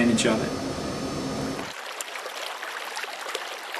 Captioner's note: running water